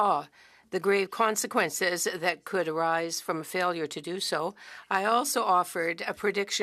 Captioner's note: speaking French